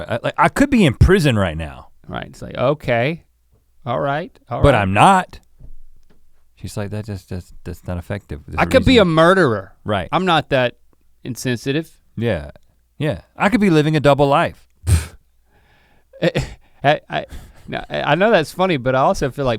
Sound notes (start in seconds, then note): 14.8 Link sputters